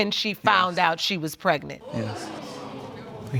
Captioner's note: audience murmurs